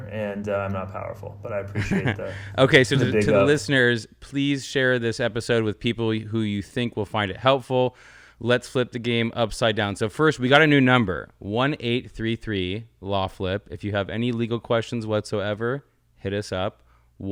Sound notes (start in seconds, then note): 1.7 laughs